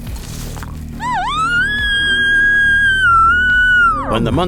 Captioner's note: elk bugle